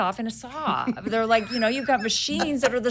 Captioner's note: laughing